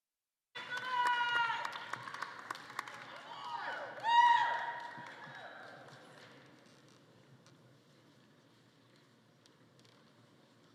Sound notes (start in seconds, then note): 3.3 attendees cheering